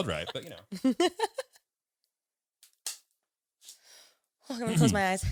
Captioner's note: all laughing